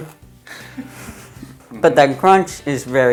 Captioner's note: laughing